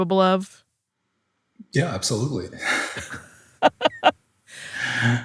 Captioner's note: chuckles